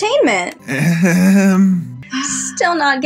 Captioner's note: Eeyok Laughs Awkwardly